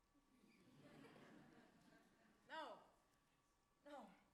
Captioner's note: audience laughs